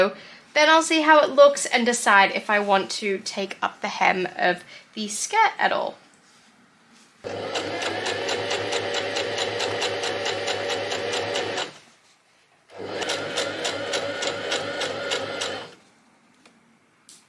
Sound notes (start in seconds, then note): 7.2 sewing machine surges; 12.6 sewing machine continues to surge